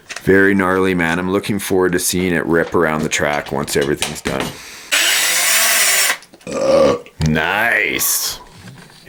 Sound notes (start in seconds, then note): 4.9 whirring; 6.4 burps